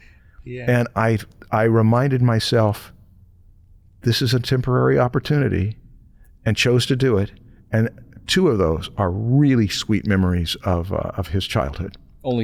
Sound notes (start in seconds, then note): none